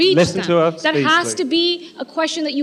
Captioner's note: shouting